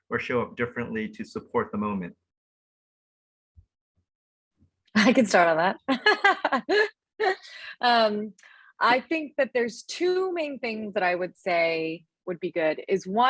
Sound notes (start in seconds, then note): 5.8 laughing